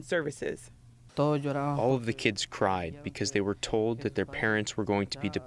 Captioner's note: through translator